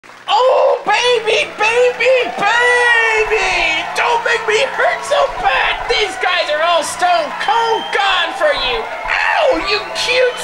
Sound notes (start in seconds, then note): 0.6 audience applauding; 6.4 applause continues